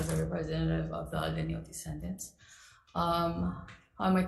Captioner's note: speaks foreign language